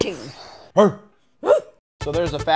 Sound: exhaling; barking

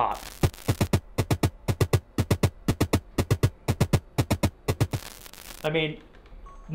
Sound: upbeat drum music; static crackling

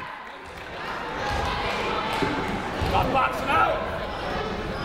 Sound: people shouting in the crowd

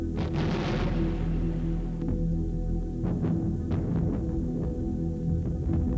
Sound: guns firing and bombs exploding

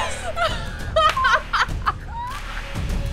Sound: laughing

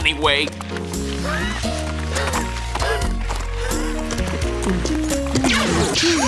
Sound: donkey gasping and panting; zapping

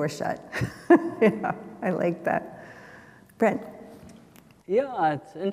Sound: chuckles

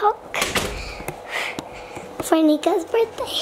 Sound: door closes

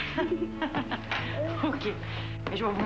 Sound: Rires

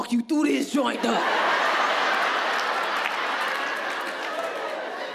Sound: audience laughing

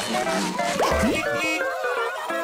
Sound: honking

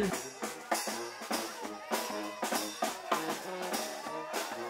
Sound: upbeat jazz music; crowd cheering

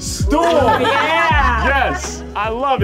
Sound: crowd laughs

